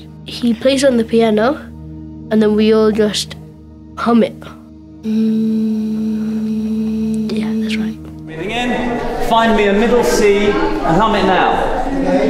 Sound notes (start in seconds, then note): 5.0 humming